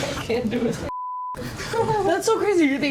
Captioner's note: laughs; beep